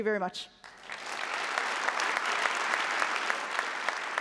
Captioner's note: applause